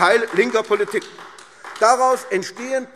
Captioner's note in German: Beifall AfD